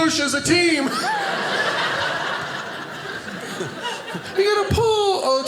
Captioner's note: audience laughing